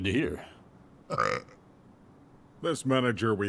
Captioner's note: Valentino burping